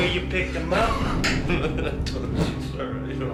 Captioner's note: chuckling